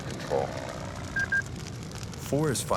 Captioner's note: fire crackling; plane whirring